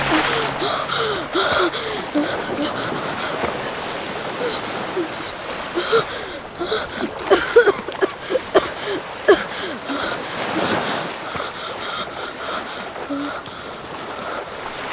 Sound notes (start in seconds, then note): 0.2 gasps; 7.4 coughing and Catching breath